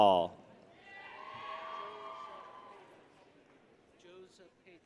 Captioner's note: people cheer